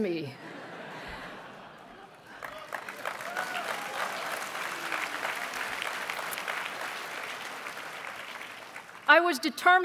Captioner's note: applause